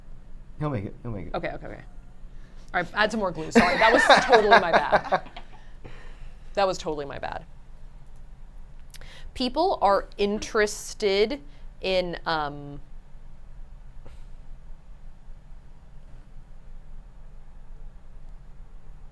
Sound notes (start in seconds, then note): 5.0 laughs